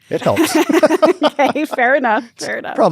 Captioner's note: both laugh